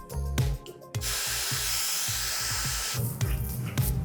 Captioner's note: upbeat music; hair dryer whooshing; upbeat music